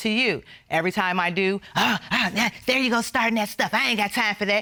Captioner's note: gasps